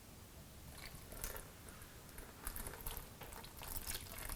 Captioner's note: liquid sloshing